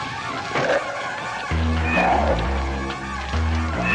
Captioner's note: thudding